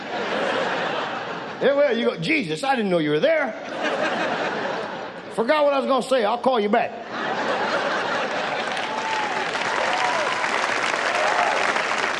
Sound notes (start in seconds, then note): 0.0 audience laughs; 3.5 audience laughs; 8.0 audience applauds